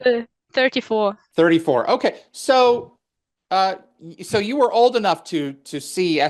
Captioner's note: translating from French